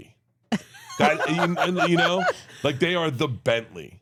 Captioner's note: laughs